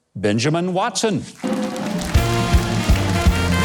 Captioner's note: clapping; jazz Music